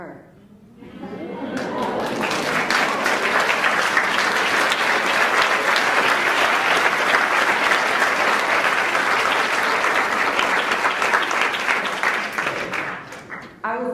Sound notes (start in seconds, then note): 5.8 applauds